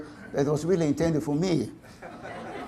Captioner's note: audience laughter